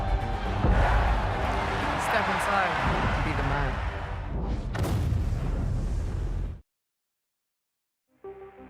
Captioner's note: crowd cheering